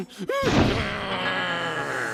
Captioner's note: growling